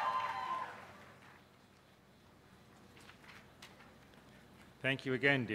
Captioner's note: cheers